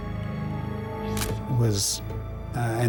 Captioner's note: camera shutter click